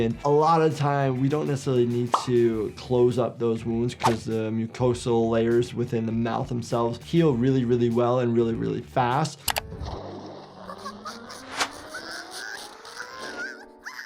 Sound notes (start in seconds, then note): 9.8 anvil splashes; 10.7 sniffles groaning